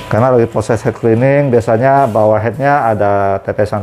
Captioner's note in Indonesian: suara mesin printer